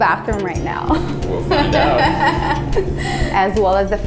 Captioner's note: lady laughs